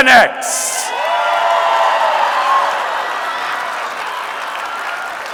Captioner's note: audience cheering and clapping